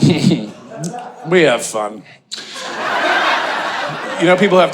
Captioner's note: audience laughing